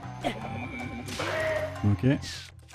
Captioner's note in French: cri de Kohga